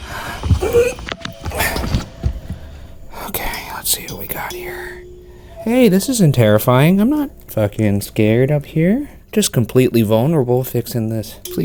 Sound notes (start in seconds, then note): 0.6 grunting